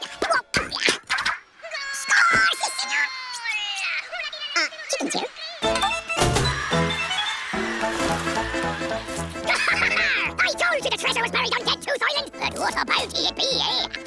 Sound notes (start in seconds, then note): 2.0 speaking fast forward; 9.4 speaking fast forward